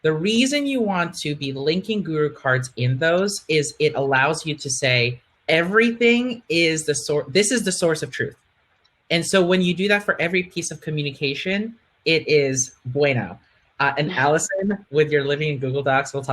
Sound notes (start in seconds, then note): 12.4 speaking in Spanish